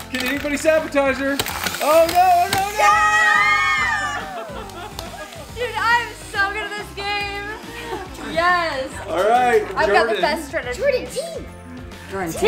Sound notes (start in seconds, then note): 2.8 applauding